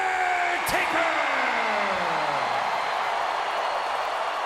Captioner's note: crowd cheers